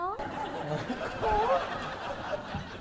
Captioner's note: laughing